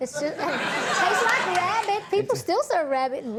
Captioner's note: audience laughing